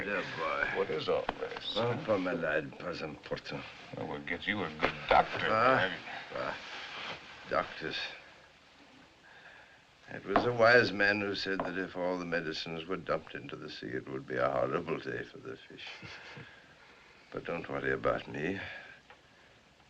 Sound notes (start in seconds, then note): 2.4 speaking French; 5.6 scoffs; 15.7 chuckles